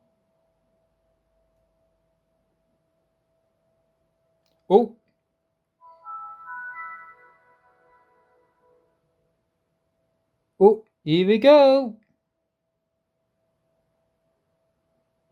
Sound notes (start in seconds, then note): 5.8 windows vista startup sound